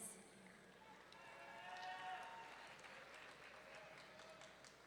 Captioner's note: audience cheering